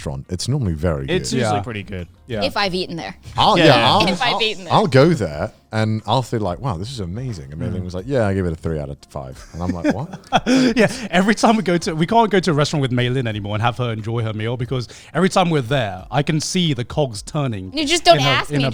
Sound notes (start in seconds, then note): 9.4 laughing